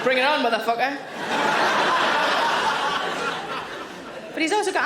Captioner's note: audience laughing